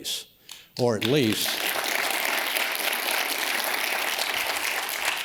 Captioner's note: audience applauds